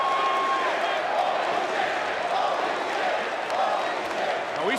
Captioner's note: chants "Holy shit"